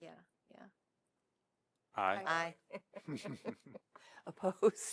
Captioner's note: laughter